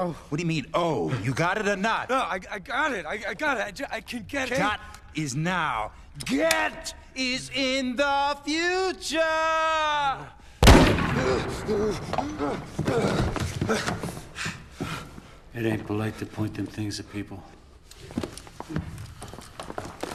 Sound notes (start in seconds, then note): 2.2 stuttering; 11.2 gasping